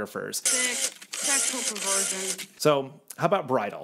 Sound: camera snapping

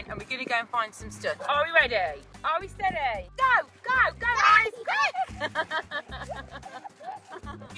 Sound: laughs

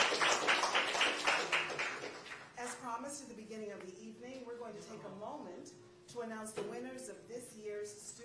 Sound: applause

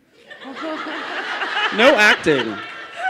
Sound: laughter

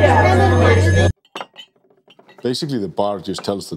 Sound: glass clinking

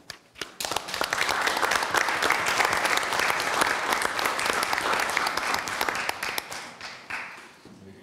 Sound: applause

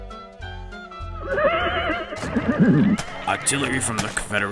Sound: horse neighing; sound of gunshots

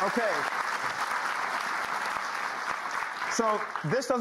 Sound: audience clapping

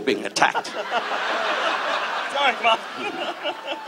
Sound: audience laughs

